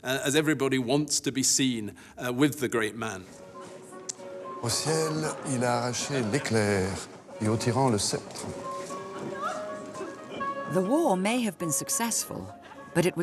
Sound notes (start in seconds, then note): 3.1 bright music; 4.6 man speaking in French